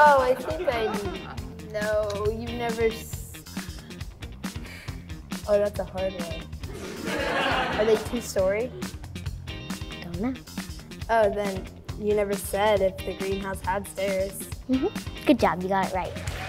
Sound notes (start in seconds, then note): 6.7 audience laughing